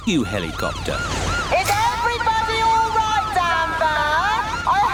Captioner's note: over megaphone